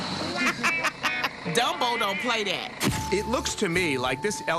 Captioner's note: laughing